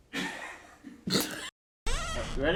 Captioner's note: laughs